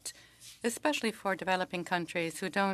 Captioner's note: speaking French